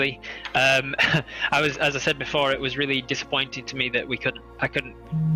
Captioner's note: heh